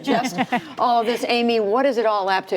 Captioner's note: laughter